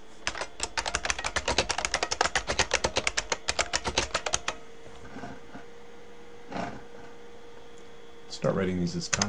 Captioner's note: typing